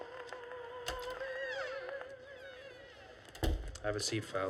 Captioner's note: opera playing; door opens and closes